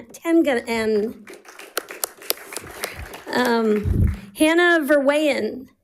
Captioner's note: audience applauding